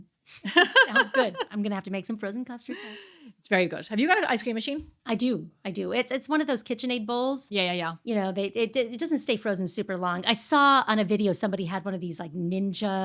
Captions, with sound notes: (laughing) Sounds good. I'm gonna have to make some frozen custard. It's very good. Have you got an ice cream machine? I do, I do. It's one of those KitchenAid bowls. Yeah, yeah, yeah. You know, it doesn't stay frozen super long. I saw on a video somebody had one of these like ninja.